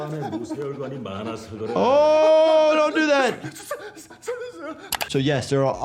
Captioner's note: man continues speaking in foreign language; man clamoring; mouse clicks